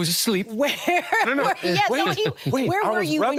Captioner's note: laughing